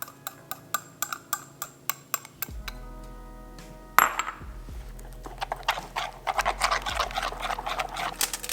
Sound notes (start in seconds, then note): 0.0 sound of whisk hitting glass bowl; 4.8 sound of whisk scrapping against bowl